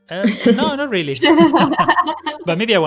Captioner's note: laughter